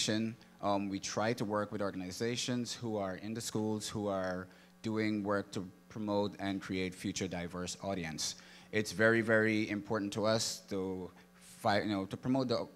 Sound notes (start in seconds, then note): none